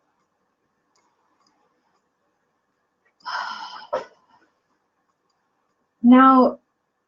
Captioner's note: exhale